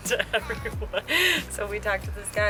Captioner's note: laughing